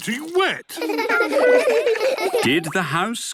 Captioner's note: laughter